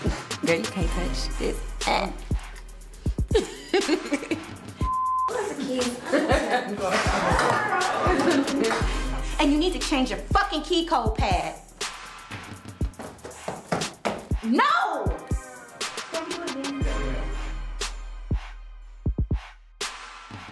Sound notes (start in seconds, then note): 3.3 laughter; 4.8 beep; 7.7 laughter; 17.0 upbeat hip hop music